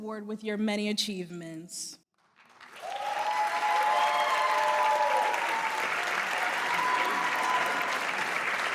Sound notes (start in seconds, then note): 2.1 applause